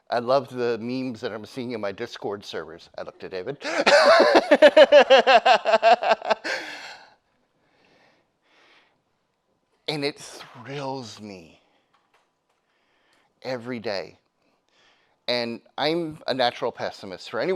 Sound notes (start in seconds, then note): 3.6 laughs; 3.8 audience laughing